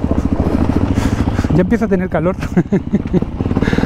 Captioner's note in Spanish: risas